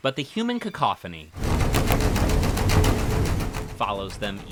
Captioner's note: machinery rattling